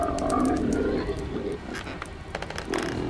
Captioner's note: growls